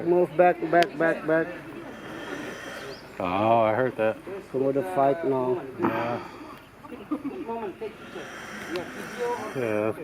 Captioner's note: komodo Dragon hisses